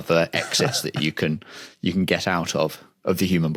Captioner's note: chuckles